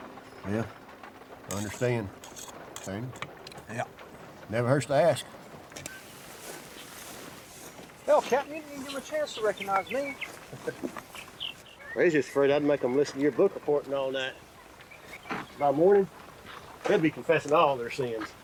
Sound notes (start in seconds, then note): 10.4 chuckles